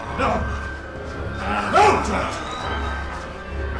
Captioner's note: grunting; grunt becomes a roar